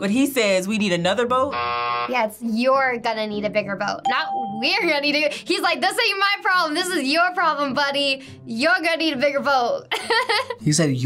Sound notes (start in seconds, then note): 1.4 buzzer rings; 9.9 laughs